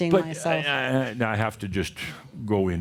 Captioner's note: more chuckles